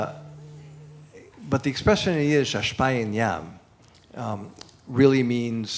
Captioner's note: non-english speech